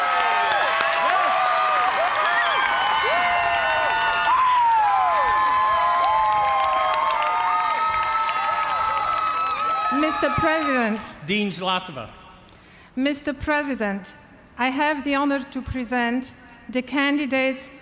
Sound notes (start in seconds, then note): 4.3 cheering